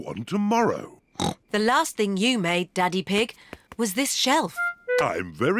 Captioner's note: snorts